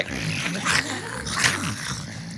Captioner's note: Dan and Phil imitate dog growling